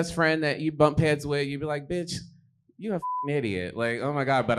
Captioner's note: beep